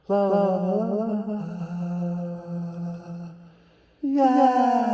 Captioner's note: humming